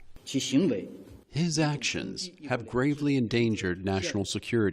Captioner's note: through translator